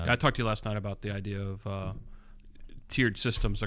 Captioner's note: uh